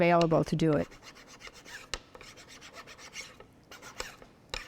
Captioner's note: sanding